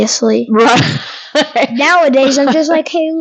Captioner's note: laughing